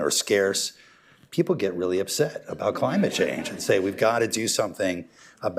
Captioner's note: laughter